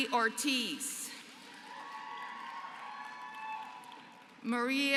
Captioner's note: applause